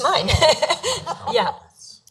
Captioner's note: laughing